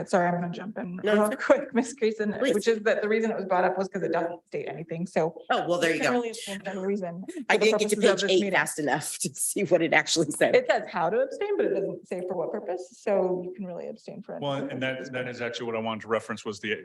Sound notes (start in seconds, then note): 14.5 speaks faintly